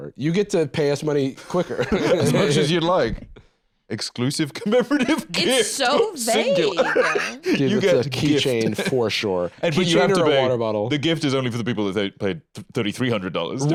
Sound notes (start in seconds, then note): 4.6 laughs